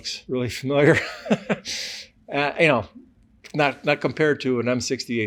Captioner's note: laughs